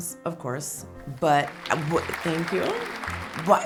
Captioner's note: audience applauding